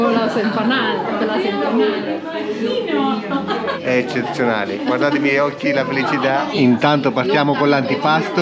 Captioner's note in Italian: Risate